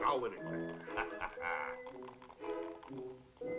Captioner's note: laughing